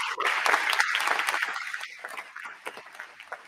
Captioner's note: applause